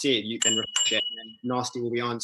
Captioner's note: bell ringing